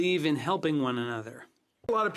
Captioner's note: speaking French